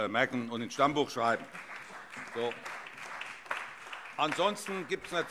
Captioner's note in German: Beifall CDU, BÜNDNIS 90/DIE GRÜNEN, SPD, AfD und Freie Demokraten